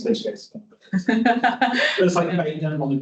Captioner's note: attendee laughing